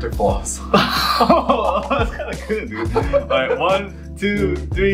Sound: laughing

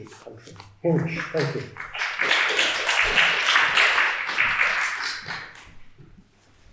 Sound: attendees applauding

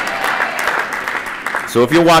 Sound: applause

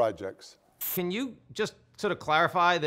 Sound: static sizzles

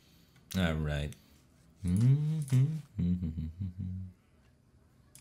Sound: hums

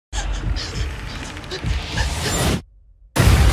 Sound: panting; intense horror music

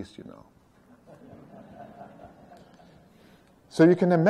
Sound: laughter

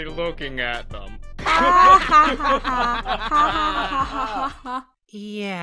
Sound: all laughing

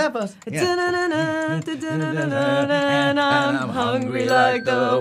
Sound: Dan joins humming; Evan humming tune

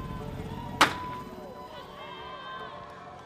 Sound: cheering; gun shot

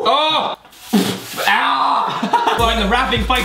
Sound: spits; laughs

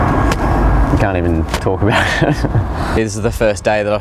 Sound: chuckles

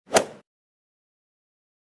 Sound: swoosh

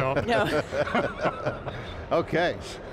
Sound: group laughing

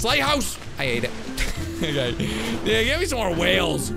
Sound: laughs

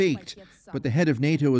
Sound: speaking Foreign Language

